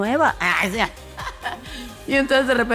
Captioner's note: laughs